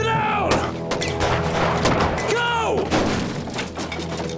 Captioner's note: gunshots; gunshot